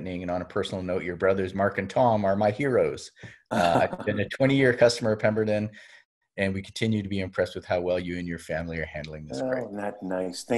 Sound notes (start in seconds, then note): 3.5 laugh